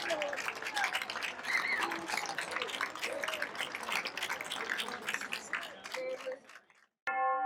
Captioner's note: applause